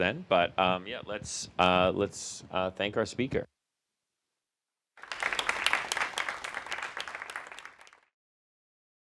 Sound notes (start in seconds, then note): 5.0 applause